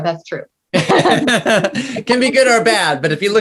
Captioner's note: laughs